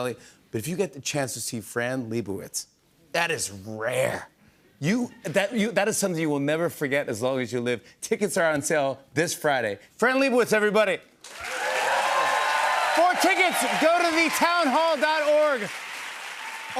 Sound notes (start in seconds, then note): 11.2 cheers and applause